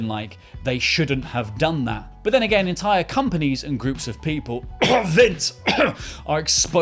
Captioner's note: cough